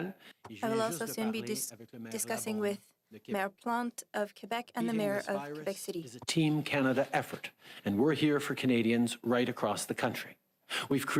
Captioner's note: speaking French